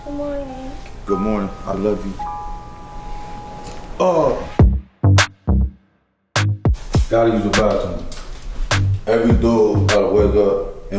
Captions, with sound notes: - Good morning. - Good morning, I love you. [grunting] [upbeat music] - Gotta use the bathroom. Every dude gotta wake up and walk the dog.